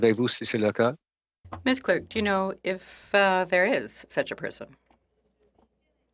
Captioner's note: speaking French